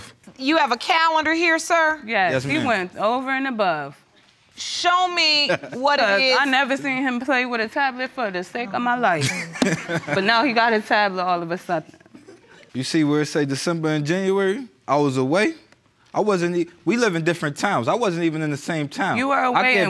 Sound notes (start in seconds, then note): 5.4 chuckles